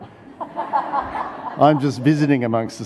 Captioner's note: audience laughs